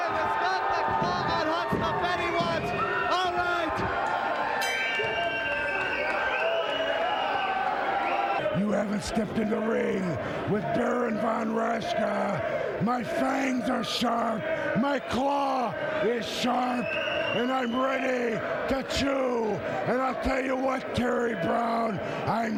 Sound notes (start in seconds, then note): 4.6 bell rings